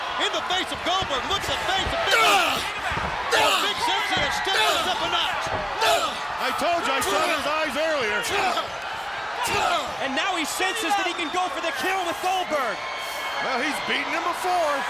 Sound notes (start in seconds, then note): 1.0 Nash grunting drowns out commentator; 7.0 Nash grunting continues